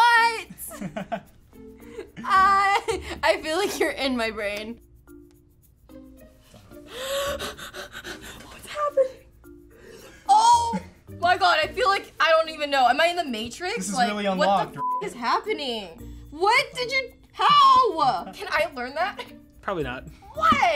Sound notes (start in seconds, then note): 6.5 breathes heavily